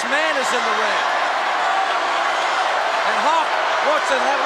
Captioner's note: crowd shout